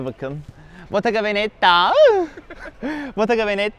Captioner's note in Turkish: gülüşme